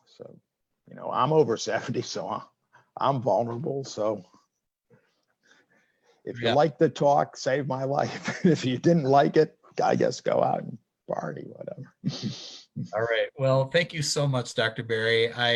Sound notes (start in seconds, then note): 8.0 chuckles